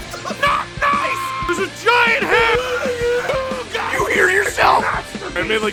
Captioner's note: screaming; Harry potter screaming